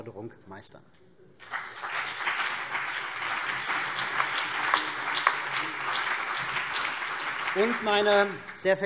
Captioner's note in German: Beifall CDU und BÜNDNIS 90/DIE GRÜNEN